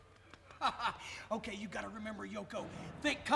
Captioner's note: laughs